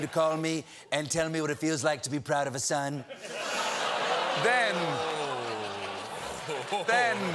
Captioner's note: audience reacts